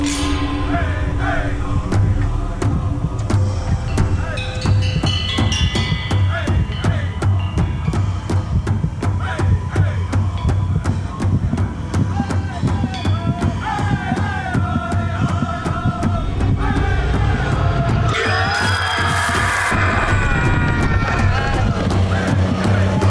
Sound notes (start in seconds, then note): 0.2 drum beating; 0.2 voices chanting; 10.9 drum beating; 10.9 voices chanting; 19.7 Scott screams